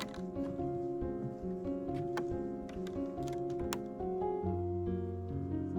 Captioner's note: creaking boardwalk